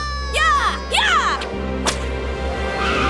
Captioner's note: screaming; gasping